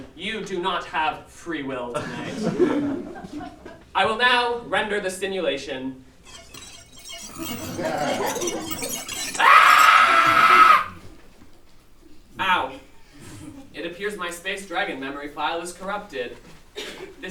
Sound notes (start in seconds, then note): 6.2 digital rendering noises; 9.3 scream; 9.3 screaming